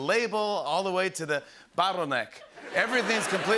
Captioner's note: laughter